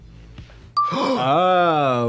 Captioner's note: Katya laughs; dinging; Trixie gasps